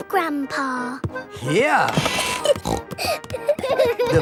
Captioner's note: snorting; kids giggling